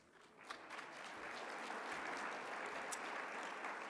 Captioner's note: applause